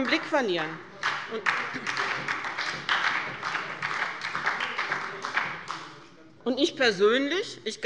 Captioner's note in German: Beifall bei der FDP und bei Abgeordneten der SPD